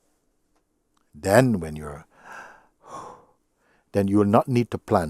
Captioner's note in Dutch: ademt diep in en uit